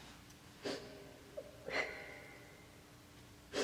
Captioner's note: soft sobbing